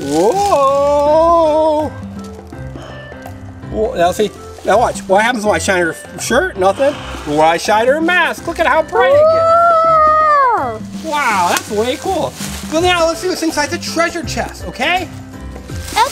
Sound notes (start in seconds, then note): 9.8 Assistant coos